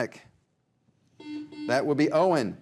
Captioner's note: buzzer buzzes